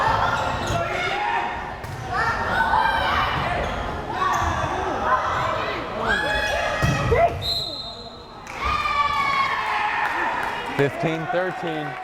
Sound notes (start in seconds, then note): 7.4 whistle blares; 8.4 crowd cheering